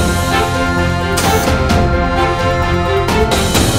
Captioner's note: Door bell